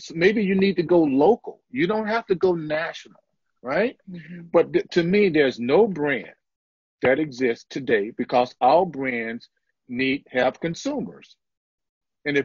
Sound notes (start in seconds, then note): none